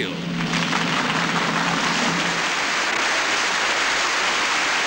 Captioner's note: crowd applauds